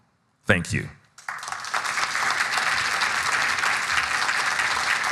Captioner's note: audience applauding